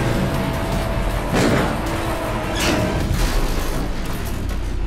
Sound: gun fires

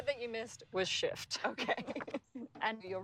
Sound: laughing

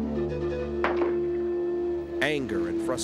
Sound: gunshot

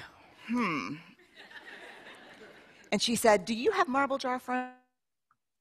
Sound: laughter

